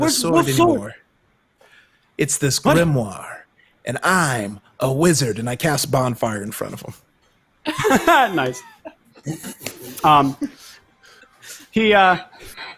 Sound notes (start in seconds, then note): 7.6 laugh